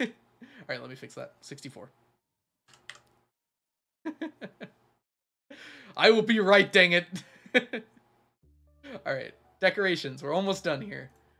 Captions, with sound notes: All right, let me fix that. 64. I will be right dang it! (laughs) All right, Decorations. We're almost done here.